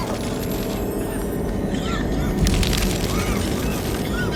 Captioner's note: coughing